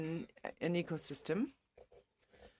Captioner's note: speaking in French